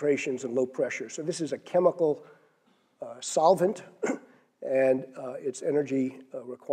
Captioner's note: cough